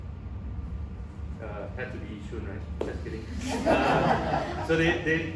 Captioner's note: audience laughs